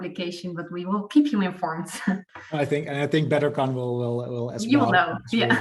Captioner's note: laughs